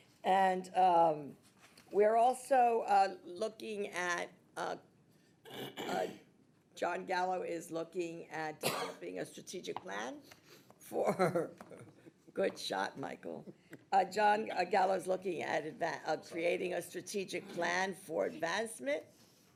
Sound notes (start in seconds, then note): 11.3 laughing